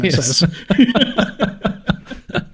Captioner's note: laughing